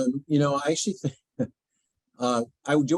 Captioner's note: chuckles